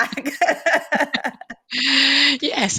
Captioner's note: laughs